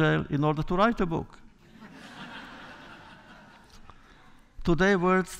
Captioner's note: laughter